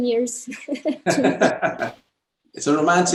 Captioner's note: both laughing